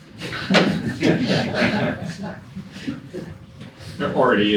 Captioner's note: audience laughing